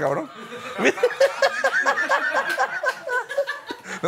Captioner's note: laughs